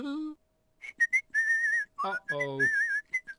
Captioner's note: chuckling; mr tickle whistling